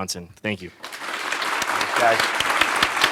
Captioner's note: applause